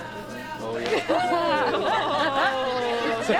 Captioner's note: students laugh and murmur